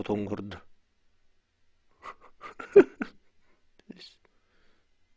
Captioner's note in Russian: Смех